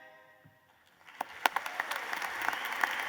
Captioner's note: applause